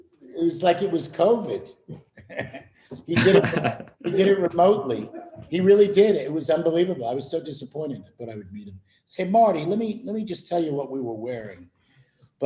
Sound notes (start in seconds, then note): 3.0 laughter